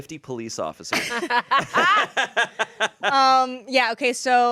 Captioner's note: everyone laughs